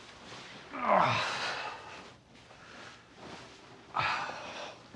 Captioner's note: Rico groaning